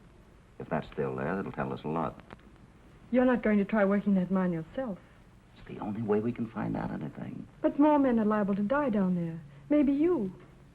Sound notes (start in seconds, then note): none